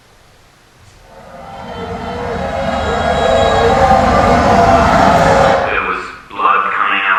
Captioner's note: wailing